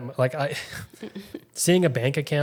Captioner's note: both chuckles